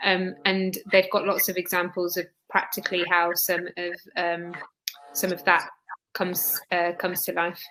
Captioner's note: erm; erm